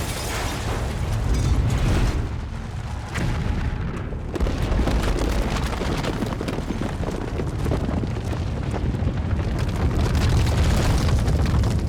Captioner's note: shattering